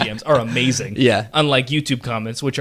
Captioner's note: laughs